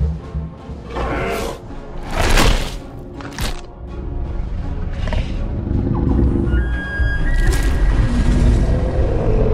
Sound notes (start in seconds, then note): 2.1 smack Sound; 5.2 mosasaurus Sounds